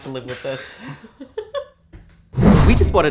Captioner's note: laughing